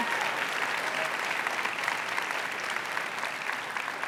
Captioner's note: applause